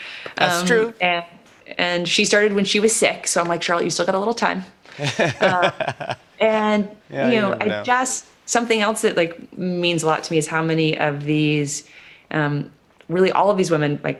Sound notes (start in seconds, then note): 4.9 laughs